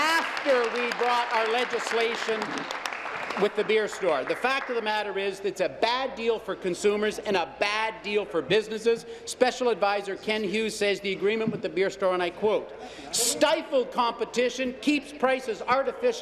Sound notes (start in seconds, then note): 2.2 applause